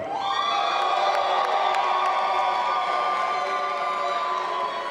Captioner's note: audience applauding and cheering